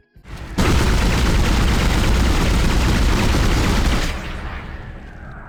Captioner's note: bassy pew-pew-pew and sounds of ricocheting bullets